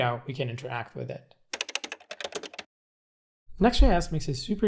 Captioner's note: keyboard clicking